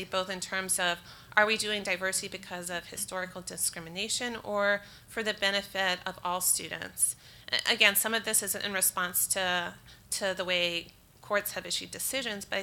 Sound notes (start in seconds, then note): none